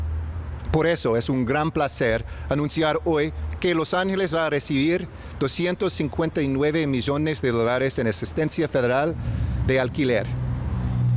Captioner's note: remarks in spanish; speaking spanish